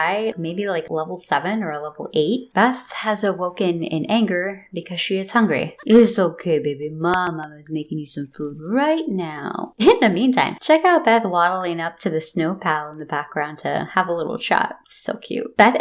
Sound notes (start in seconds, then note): 5.9 baby voice